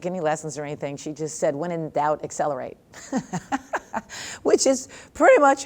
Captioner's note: laughs